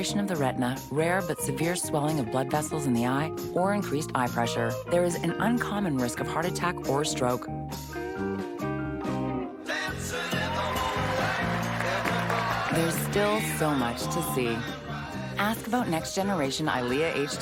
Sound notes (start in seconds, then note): 12.0 applause